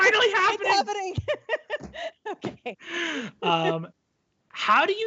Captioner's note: laughs